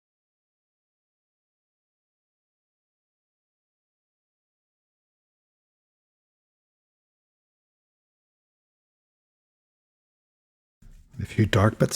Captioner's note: silence